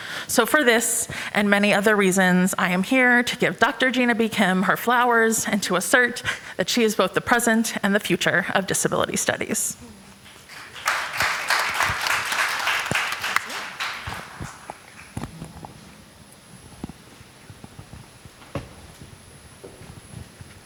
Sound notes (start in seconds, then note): 10.2 applause; 15.7 chatter